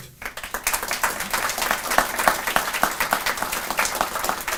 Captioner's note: audience applauding